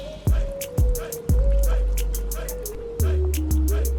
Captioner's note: sounds of boiling water